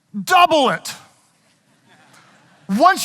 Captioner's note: audience chuckling